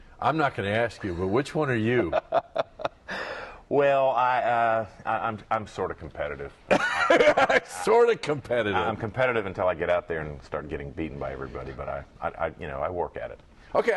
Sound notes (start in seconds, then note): 6.7 laughter